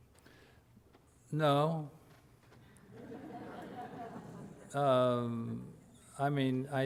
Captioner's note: audience laughter